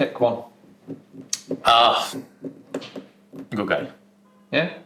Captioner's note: tuts